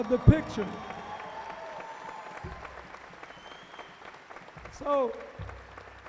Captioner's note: cheering